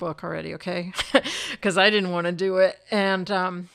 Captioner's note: chuckles